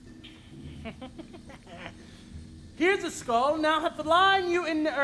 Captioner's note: laughs